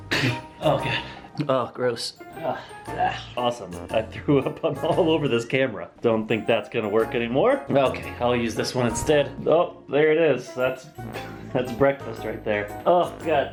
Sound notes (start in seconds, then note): 2.2 makes disgusted noises